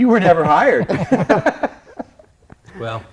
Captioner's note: laughter